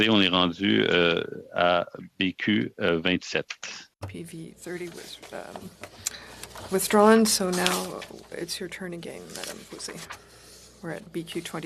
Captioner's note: speaking French